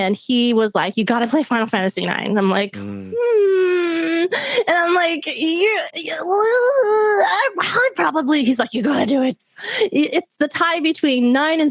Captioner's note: reluctant noises